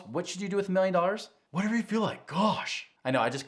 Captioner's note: voiceover